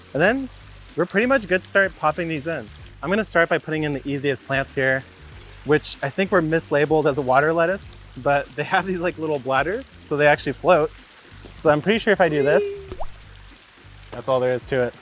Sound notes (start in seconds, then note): 12.3 plant "wee" sound effect; 12.4 plopping sound